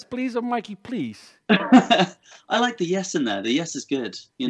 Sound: chuckles

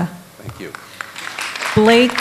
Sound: applause

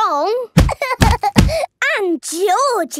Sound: banging

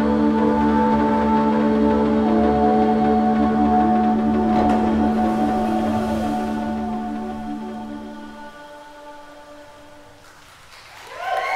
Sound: people clapping and cheering at the poolside

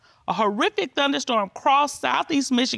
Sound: judge dana reading

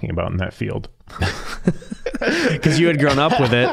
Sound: both laughing

